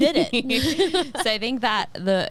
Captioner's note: laughing